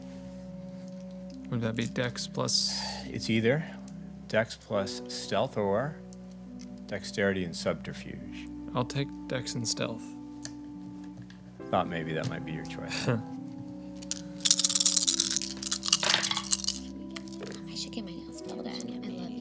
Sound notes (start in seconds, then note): 14.0 dice rattling; 14.1 laughs